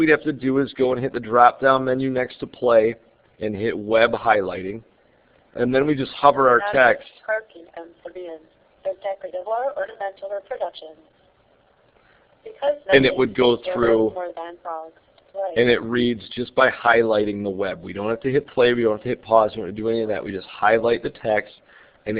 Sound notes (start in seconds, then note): 8.1 computer reading